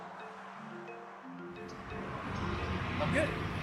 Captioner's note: traffic noise